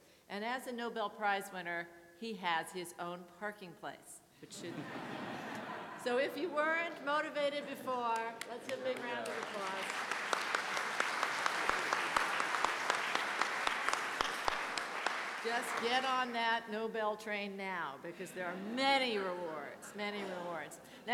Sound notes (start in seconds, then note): 10.1 clapping